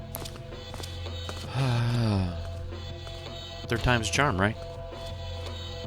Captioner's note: sighs